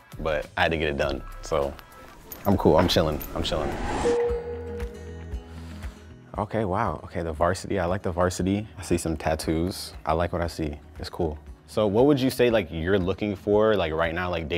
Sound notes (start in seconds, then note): 4.1 text dings